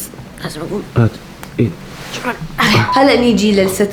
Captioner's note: grunts